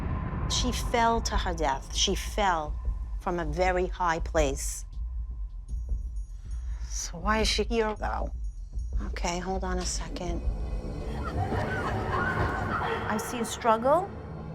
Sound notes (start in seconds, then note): 11.0 muffled screaming and gasping